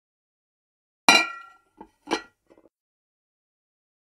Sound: sound of bowl clang

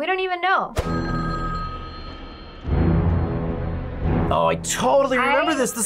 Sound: phone rings

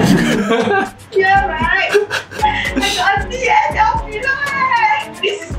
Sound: laughs; laughs

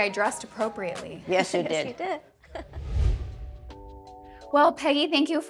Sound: chuckles

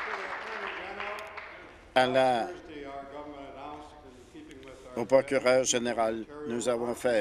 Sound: applause

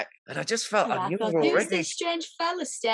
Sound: laughs

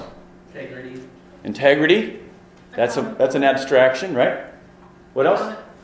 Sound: voiceover

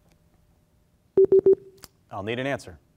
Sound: warning bleep

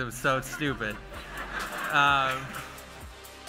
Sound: laughter

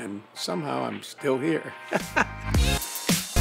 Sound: laughs; electronic music

